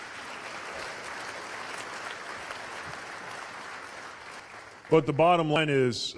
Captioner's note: applause